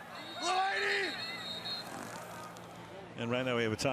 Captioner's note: whistle